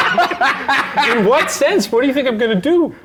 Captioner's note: everyone laughing